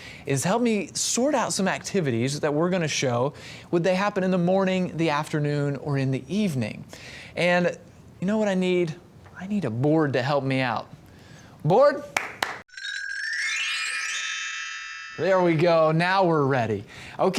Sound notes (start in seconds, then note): 12.1 claps; 12.6 chimes